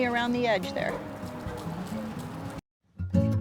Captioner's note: sounds of seeds hitting the ground